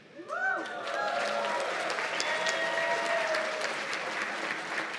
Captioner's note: cheers and applause